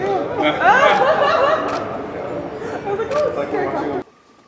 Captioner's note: laughs